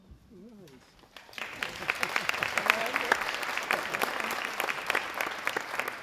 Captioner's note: audience applauding